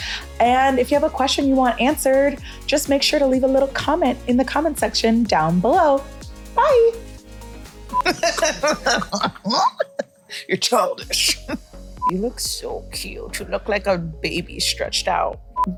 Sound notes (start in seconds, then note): 6.9 upbeat music; 8.0 laughter